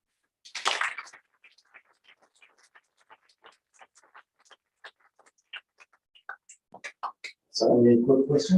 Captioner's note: applause